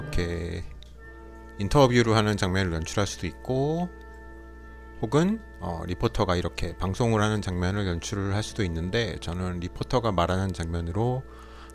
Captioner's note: speaking on air